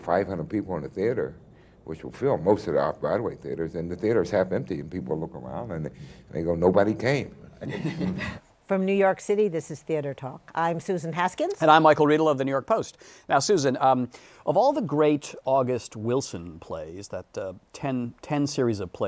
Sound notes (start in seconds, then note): 7.6 laughter